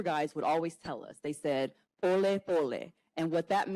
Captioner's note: speaks Swahili